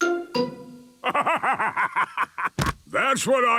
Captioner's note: bursting laughter